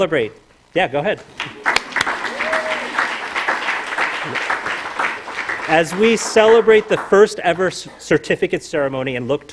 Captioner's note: applause